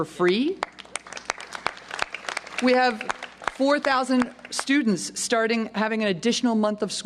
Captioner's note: applause